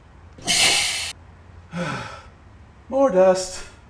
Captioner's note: sneezes